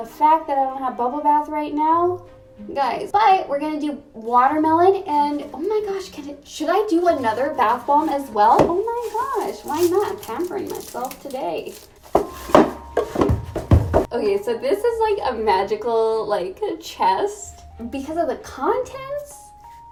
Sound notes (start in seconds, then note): 13.0 klunk! klunk! klunk!